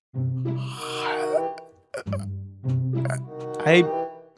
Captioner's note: noises of suffering